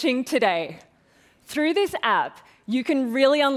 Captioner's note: none